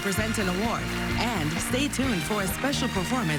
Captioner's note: applause